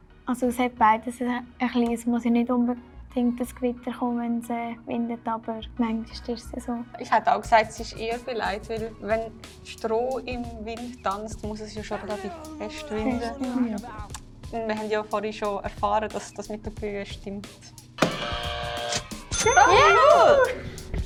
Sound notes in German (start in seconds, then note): 18.0 Buzzer richtig; 18.0 ka-tsching; 19.4 Jubel